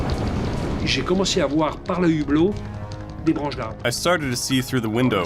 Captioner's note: speaking in French